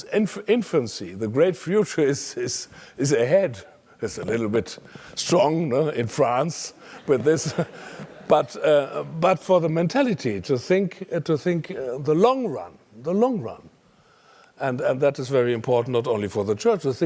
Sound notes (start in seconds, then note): 7.4 laugh